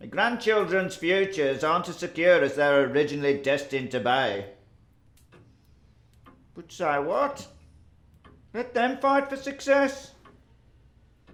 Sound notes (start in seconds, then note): none